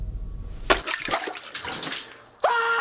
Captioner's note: water sloshes; exclaims